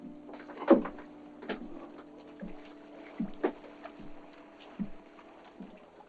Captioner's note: Boyle's footsteps